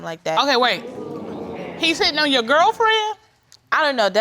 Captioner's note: audience groans